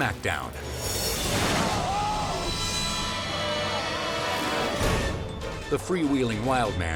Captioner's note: tense music; body slams